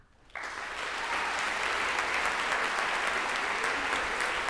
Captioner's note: audience applauds